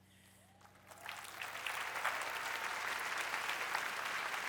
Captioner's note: applause